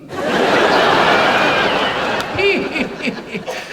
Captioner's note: audience laughs; laughs